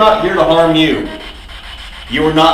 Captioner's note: static buzzing